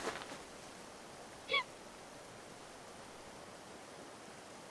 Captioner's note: Lily sobbing